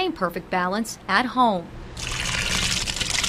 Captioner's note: tomatoes splash